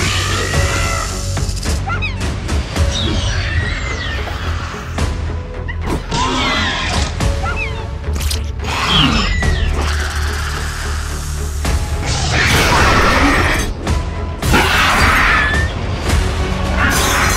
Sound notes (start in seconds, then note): 0.2 dramatic Music; 6.8 dilophosaurus and Raptor Sounds